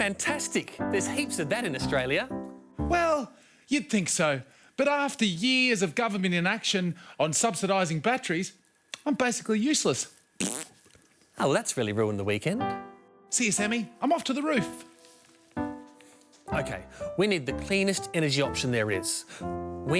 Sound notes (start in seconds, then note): 10.4 blows raspberry